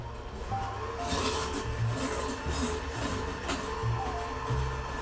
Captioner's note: power hand whirring